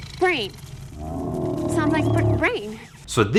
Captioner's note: dinosaur growls